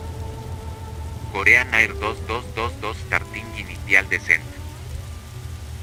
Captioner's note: Spanish